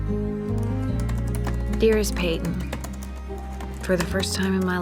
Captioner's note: typing